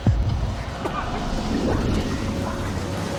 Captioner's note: growls